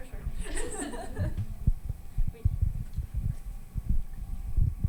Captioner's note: panel laughs